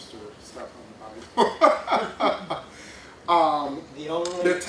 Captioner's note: laughs